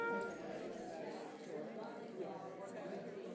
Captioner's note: crowd murmurs